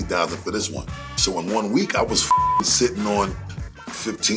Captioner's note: beep